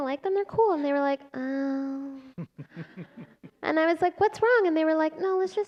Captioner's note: laughter